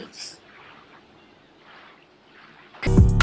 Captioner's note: ocean background sound